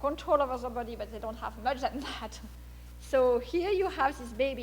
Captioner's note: laughs